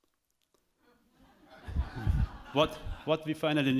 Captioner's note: audience chuckles